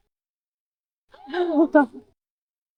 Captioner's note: laughter